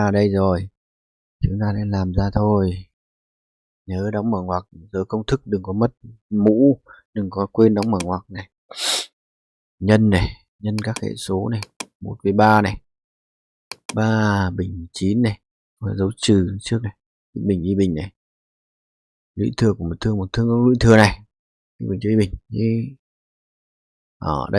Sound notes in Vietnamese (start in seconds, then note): 8.7 khịt mũi